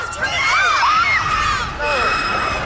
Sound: squeals

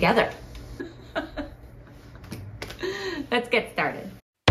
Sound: laughing

